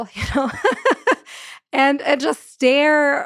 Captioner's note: laughs